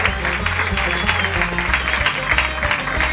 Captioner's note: applause